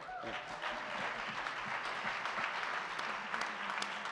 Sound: audience clapping

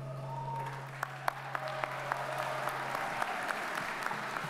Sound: audience applauds

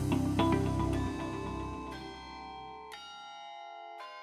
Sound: lighthearted music; bell tolling

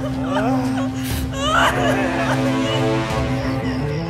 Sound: crying

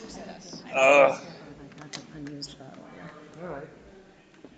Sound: people chattering

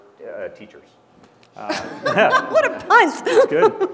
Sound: laugh

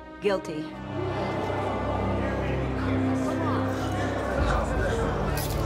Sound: people murmuring

